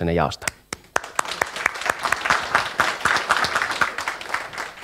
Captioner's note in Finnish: Aplodeja